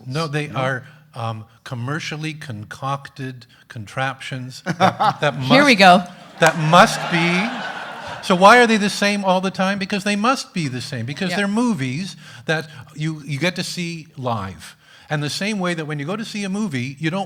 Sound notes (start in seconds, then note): 4.6 laughs; 7.3 audience laughing